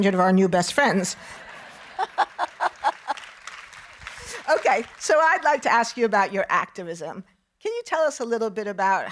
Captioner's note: audience laughing